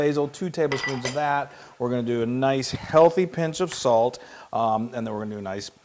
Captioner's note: none